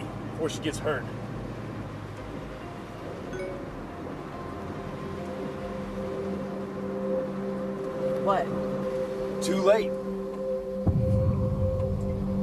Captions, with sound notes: before she gets hurt. [notification sound] -What? -Too late.